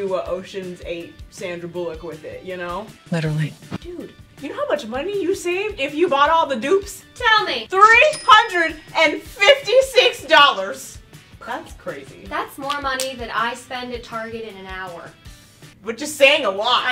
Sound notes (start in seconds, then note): 9.3 cash register sound